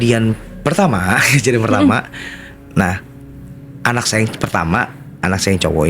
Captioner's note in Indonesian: berdehem